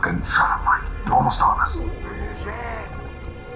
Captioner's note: whisper